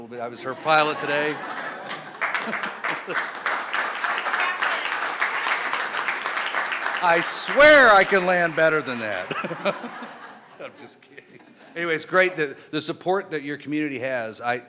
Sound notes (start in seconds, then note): 1.7 crowd laughing and clapping